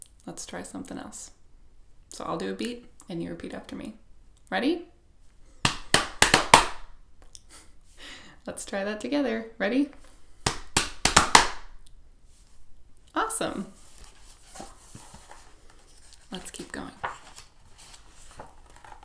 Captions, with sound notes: Let's try something else. So I'll do a beat and you repeat after me. Ready? [multiple claps] Let's try that together, ready? [multiple claps] Awesome! Let's keep going.